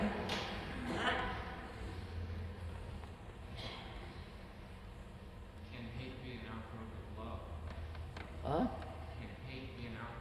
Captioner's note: laughter